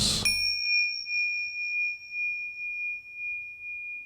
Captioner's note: bell ringing